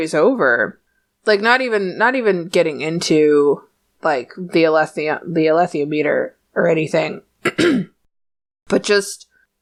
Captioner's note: coughs